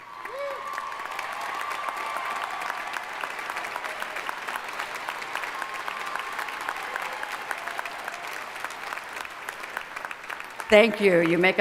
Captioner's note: cheering and applause